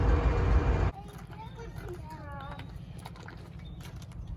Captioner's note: crunching footsteps on gravel